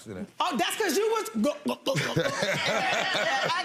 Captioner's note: chuckles; gulps